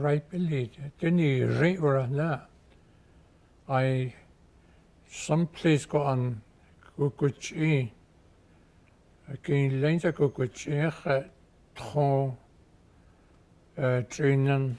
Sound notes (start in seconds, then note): 0.0 speaking Gwich'in